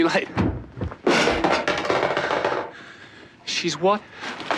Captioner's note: loud clattering